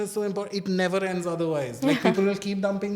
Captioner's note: laughs